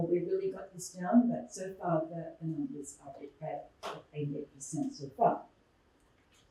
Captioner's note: muffled voice